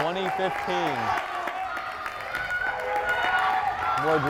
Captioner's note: crowd cheering